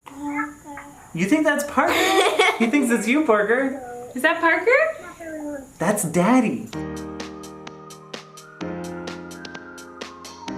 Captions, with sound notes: - Parker. - You think that's Parker? (laughing) He thinks that's you, Parker! - Is that Parker? - That's Daddy! (upbeat music)